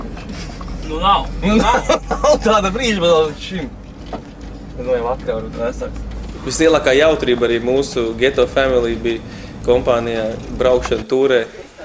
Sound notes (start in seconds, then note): 1.4 laughing